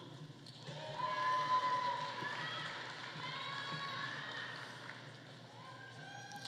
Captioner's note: audience cheering; audience applauding